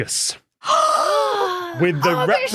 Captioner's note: gasp